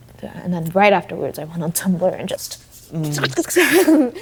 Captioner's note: laughing